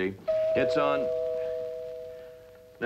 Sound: doorbell

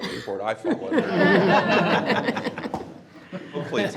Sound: everyone laughs

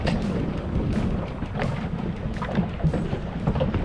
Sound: water lapping; splashing

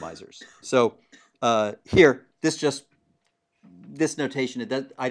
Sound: cough

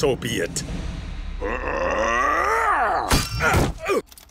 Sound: grunting

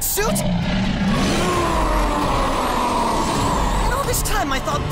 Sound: roars

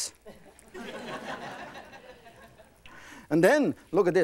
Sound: laughing

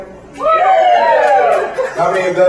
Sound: cheers

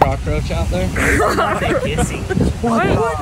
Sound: laughing

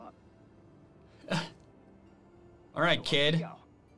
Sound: laughs

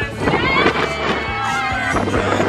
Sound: members cheer

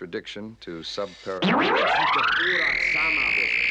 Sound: high-pitched frequency

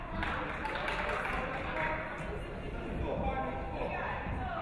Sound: audience clapping

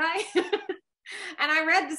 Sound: laughs

